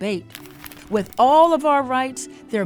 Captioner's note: image rustling